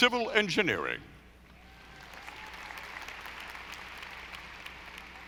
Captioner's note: audience applauding